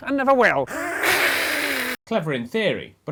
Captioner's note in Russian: Взаимное агрессивное шипение